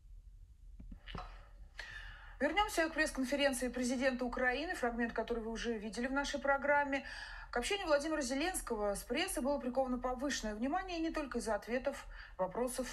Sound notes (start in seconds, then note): 1.5 speaking in Russian